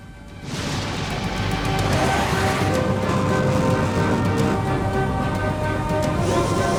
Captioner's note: intense, dramatic music; aircraft whooshing